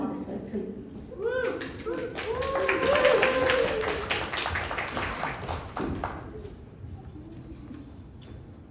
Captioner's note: applause